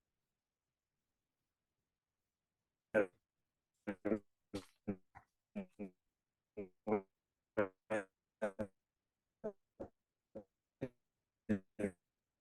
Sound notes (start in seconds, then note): 3.3 audio distortion